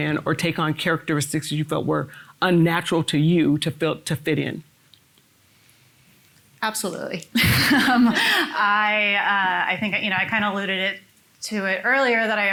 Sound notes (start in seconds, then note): 7.3 laughs